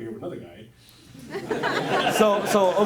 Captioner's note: audience laughs